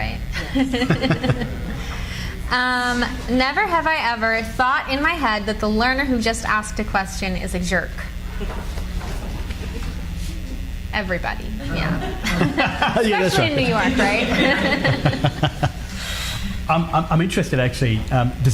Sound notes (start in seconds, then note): 0.4 laughing; 8.7 cards flutter; 11.6 laughing